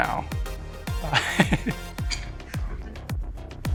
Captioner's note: laughs